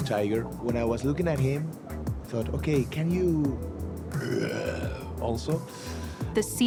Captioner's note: roar